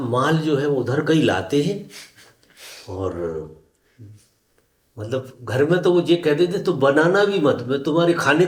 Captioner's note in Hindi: नाक से की जाने वाली आवाज़